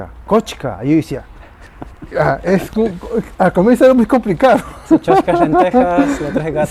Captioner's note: laughs